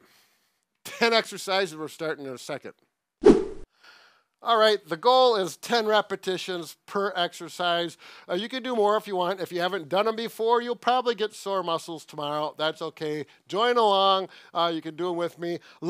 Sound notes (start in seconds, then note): 3.2 whooshing sound effect echos